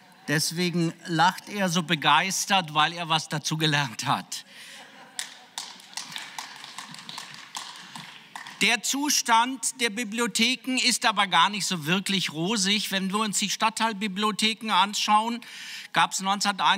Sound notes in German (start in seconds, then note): 8.5 Beifall